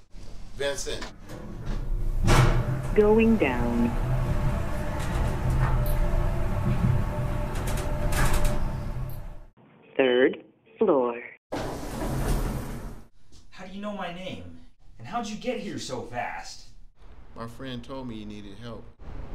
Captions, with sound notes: Vincent! *Elevator Voice* "Going Down" *Elevator Voice* "Third Floor" How do you know my name? And how'd you get here so fast?! My friend told me you needed help